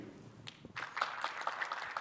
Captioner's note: audience claps